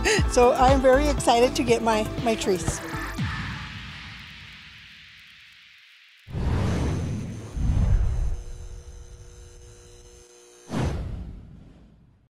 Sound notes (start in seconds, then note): 0.0 laughs; 2.7 upbeat music continues; 6.2 transition whooshes; 7.6 logo whooshes and buzzes; 10.7 logo whooshes